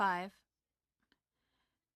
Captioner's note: speaking French